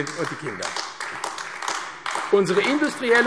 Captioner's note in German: Beifall AfD